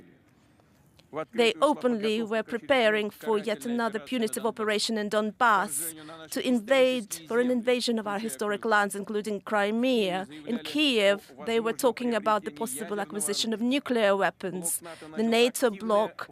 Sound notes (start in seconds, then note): 5.2 speaking Alternate Language